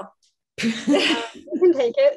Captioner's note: laughing